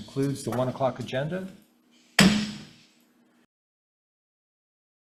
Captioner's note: gavel bangs